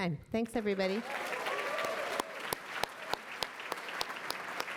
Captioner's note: applause